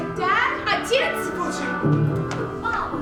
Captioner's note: speaking in a foreign language